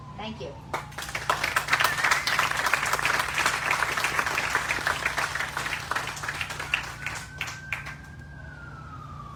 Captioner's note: applause